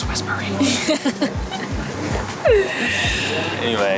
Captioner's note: laughs